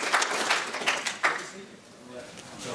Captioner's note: applause